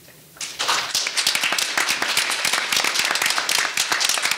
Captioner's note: audience applauding